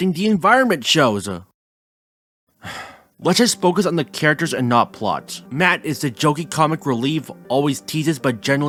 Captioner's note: sigh